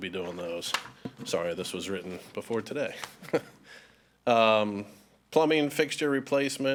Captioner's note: chuckles